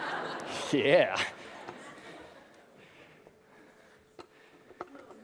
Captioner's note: risos